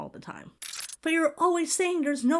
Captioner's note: audio glitches